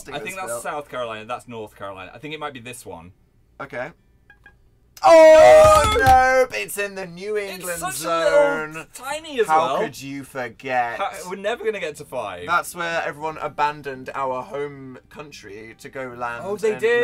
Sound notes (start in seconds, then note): 3.8 beep beep